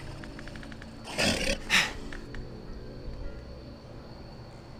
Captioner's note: werewolf growling